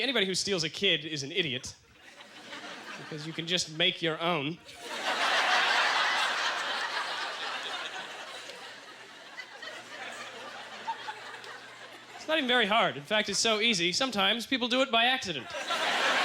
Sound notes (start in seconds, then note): 4.7 audience laughter; 8.5 lingering chuckles